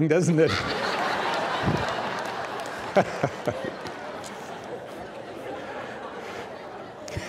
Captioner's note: audience laughing